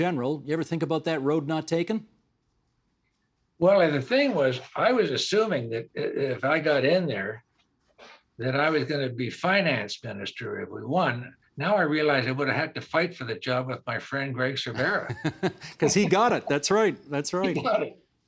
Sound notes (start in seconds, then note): 14.7 laughing